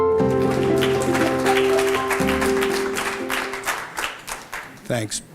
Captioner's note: applause